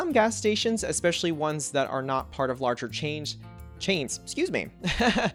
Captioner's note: laughs